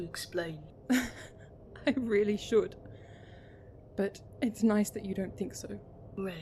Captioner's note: Regulus laughs